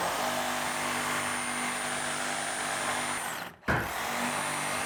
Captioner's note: saw humming